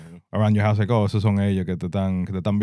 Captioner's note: speaking In Foreign Language